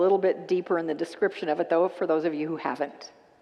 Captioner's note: none